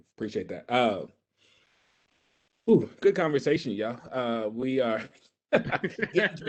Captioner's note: laughs